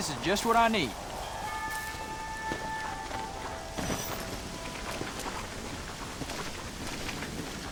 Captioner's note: footsteps patter; dull music